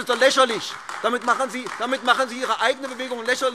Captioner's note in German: Beifall AfD